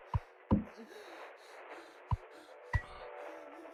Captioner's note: Curly breathing, panicking